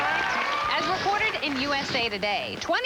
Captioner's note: cheers and applause